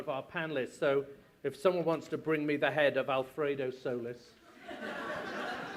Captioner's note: laughter